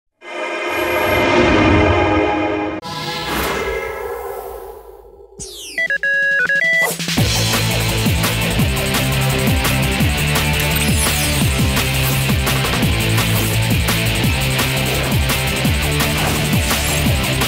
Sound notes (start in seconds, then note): 5.4 beeping; 7.6 theme music playing